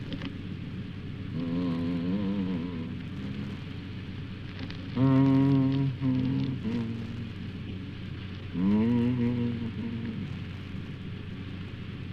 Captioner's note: hums